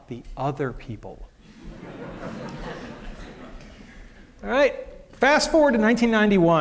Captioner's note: laughter